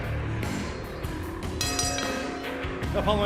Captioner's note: bell ringing